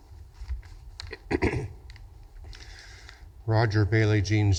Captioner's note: clears throat